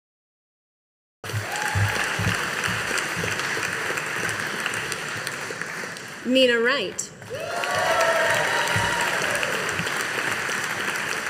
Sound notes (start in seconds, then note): 1.2 audience applauding